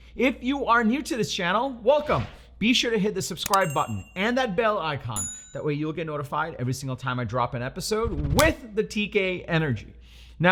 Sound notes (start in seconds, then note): 3.4 mouse clicks; 3.4 bell chimes